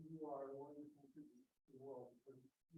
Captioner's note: indistinct chatter